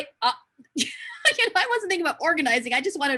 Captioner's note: laughs